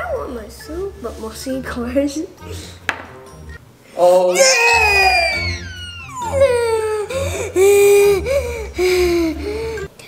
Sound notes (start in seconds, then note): 2.9 thud; 6.9 screams